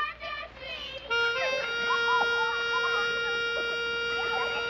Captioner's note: children laughing